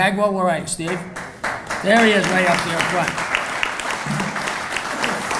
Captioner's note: applauding